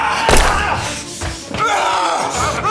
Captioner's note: Brown yelling; Koch screaming; gun booming; Brown yelling; suspenseful music